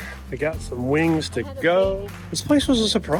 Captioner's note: faintly speaking